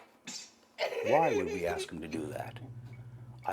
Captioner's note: laughter